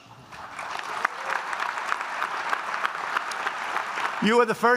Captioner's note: applause